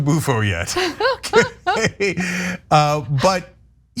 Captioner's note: laugh